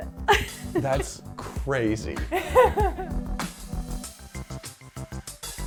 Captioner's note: laughing; bright music